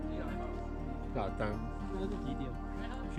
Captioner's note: slurring